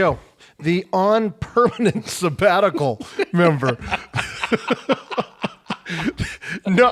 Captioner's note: laughs